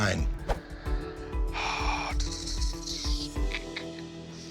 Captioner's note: sighs